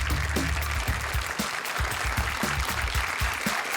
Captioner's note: applause